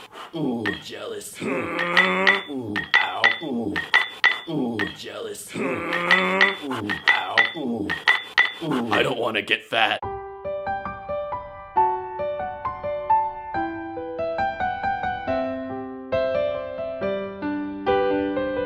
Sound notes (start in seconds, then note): 0.7 clang; 1.2 hhrrrrnnnggg; 1.4 whoo whoo; 1.4 clang clang clang; 3.8 clang; 5.4 hhrrrrnnnggg; 5.5 whoo whoo; 7.8 clang clang clang